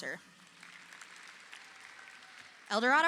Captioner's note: audience applauding